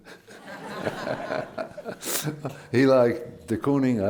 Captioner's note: laughter